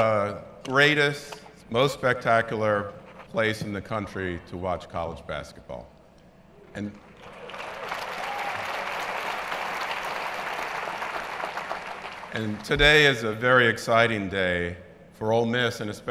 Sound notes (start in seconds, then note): 7.1 applause